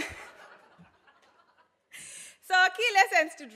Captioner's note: laughs